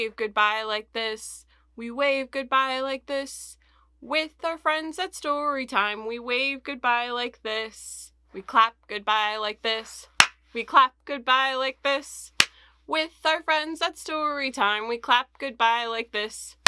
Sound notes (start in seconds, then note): 10.2 clap